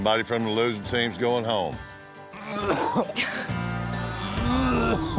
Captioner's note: coughing